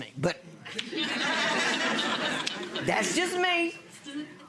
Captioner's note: audience laughs